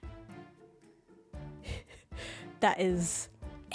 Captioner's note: laughs